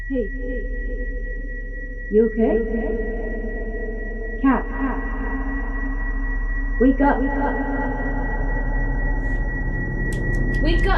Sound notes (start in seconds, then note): 0.5 voice echoing; 8.6 tense horror music